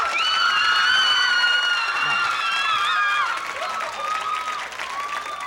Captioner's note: screaming